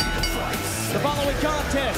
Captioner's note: bell ringing